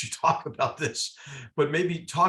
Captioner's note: laugh